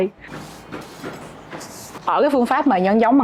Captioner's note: sweep sweep